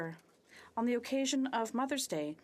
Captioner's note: speaking French